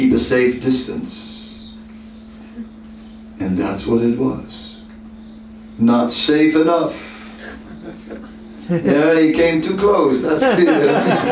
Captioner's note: laughter